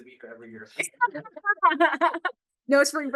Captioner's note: laughter